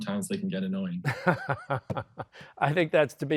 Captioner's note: laughs